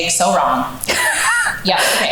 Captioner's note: laughs